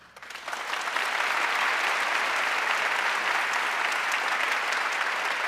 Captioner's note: audience applauding